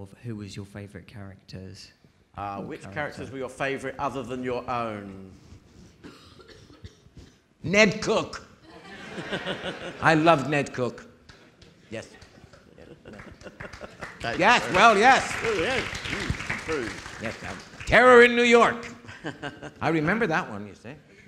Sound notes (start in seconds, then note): 12.0 audience applauding; 21.1 audience laughing